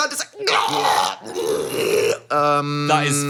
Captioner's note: Dan imitates choking noises